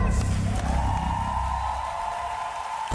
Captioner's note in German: Jubel, Applaus